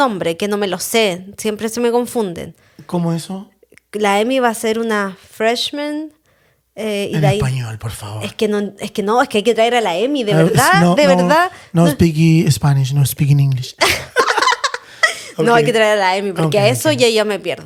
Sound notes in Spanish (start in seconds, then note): 13.8 risas